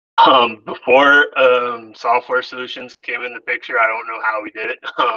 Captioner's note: laughs